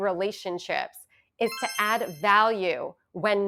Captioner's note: chimes ringing